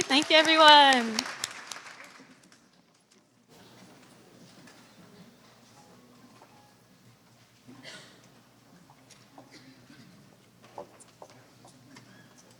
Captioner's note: applause